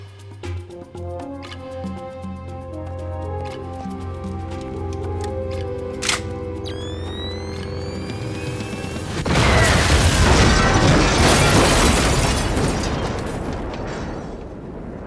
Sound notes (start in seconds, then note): 0.2 dramatic music; 4.2 gun cocks; 9.1 explosion